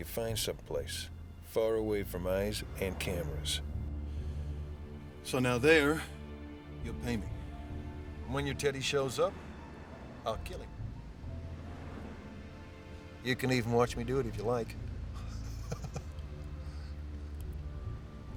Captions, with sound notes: You'll find someplace far away from eyes and cameras. So now there you'll pay me. And when your teddy shows up, I'll kill him. You can even watch me do it if you like. (laughs)